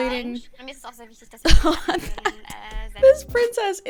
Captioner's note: laughs